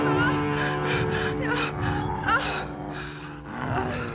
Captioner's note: whimpering